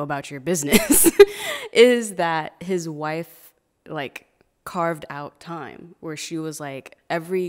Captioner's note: laughing